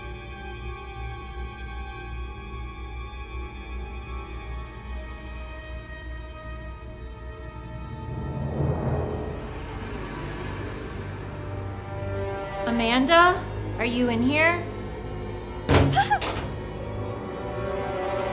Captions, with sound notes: [music intensifies] Amanda? Are you in here? [metal impact] [Amanda screams]